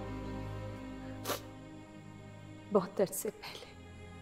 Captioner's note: Meher sniffs